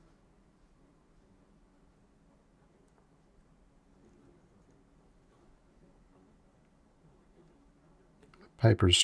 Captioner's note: silence